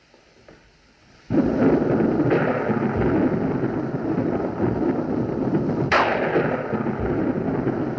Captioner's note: thunderclaps Continue